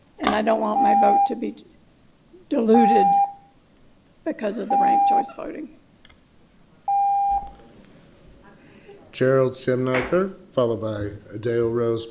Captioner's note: loud beep